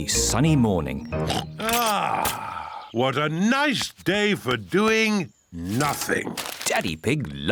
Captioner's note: oinks